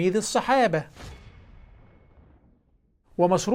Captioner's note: sound effects